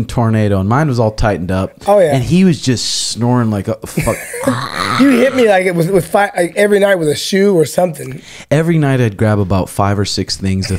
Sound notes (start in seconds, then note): 4.4 imitates snoring sound